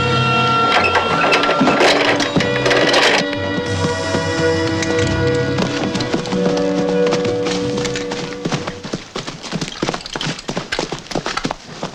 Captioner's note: soldiers screaming